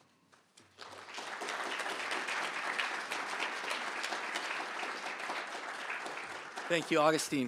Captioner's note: applause